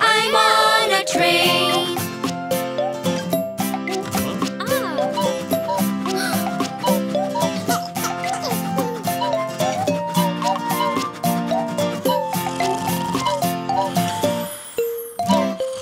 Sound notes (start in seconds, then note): 6.1 baby gasps; 12.4 grandpa snores